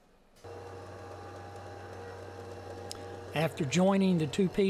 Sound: planer motor running

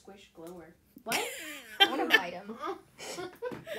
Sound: laughter

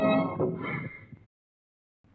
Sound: brakes squeal

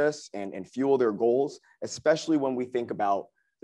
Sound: none

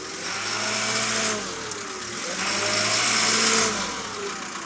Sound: equipment whirring

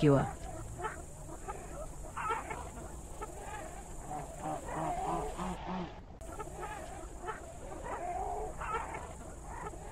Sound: jungle sounds

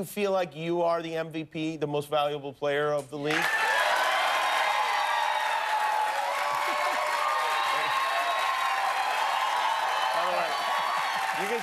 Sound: cheers and applause

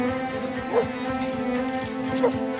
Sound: dogs barking; dogs barking

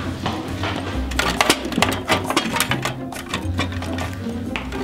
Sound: machine rattles

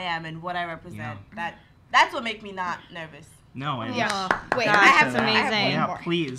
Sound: claps

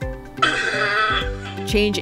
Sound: coughs

